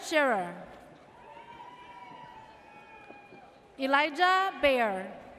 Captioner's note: audience cheers